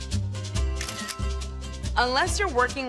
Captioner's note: camera click